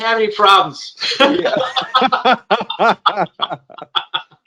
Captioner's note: both laugh